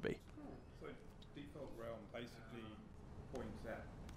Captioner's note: voiceover